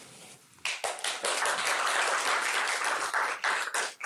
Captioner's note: applause